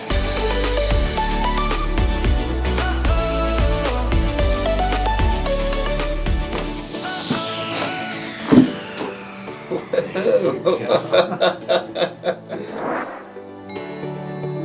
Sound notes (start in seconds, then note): 0.1 uplifting music; 9.6 patient laughing